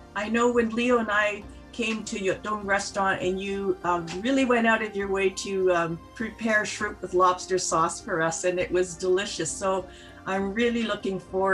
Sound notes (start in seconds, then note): none